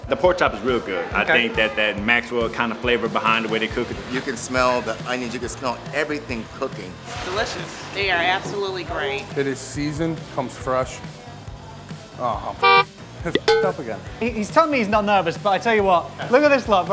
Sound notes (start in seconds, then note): 12.6 horn honks; 13.3 bell dings